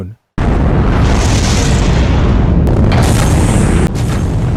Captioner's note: space shuttle thundering